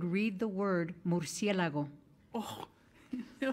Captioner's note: speaking in foreign language